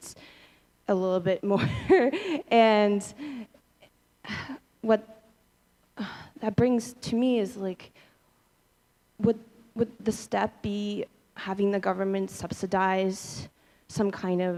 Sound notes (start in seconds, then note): 1.6 laughter